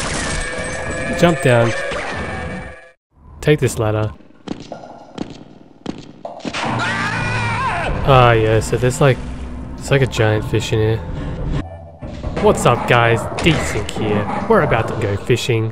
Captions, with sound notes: Jump down... take this ladder... [Scientist screams] Oh yeah, so there's like... there's like a giant fish in here. What's up guys, DeSinc here. We're about to go fishing.